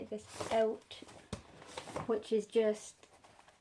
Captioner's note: rustling paper